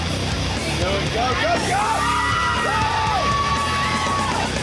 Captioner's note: shouting